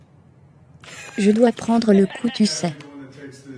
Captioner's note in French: des rires